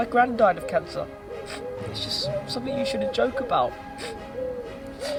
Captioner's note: sniffs